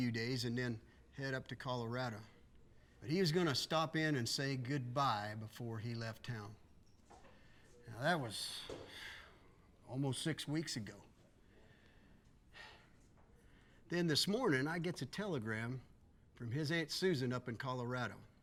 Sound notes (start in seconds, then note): 8.7 sighs